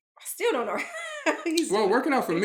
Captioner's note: chuckles